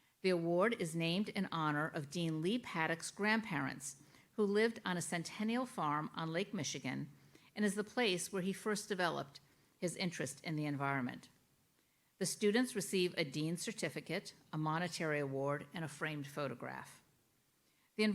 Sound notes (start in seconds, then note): none